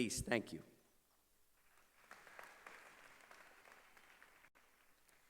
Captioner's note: applause